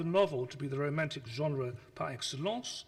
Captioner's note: speaks foreign language